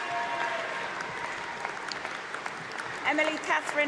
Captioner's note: applause and cheering